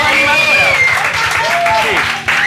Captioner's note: cheers and applause